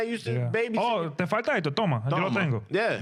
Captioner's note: speaking In Foreign Language